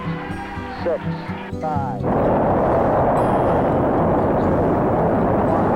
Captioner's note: rocket engine roars